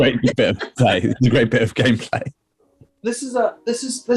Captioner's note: laughter